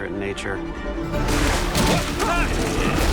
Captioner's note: both grunt